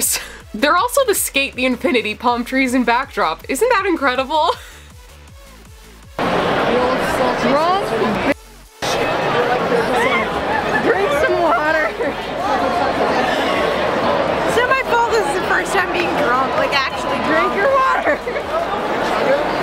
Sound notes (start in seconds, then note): 14.3 slurring; 17.9 laughter